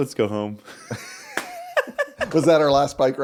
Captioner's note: laughing